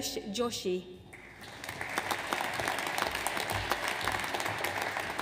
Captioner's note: audience applauds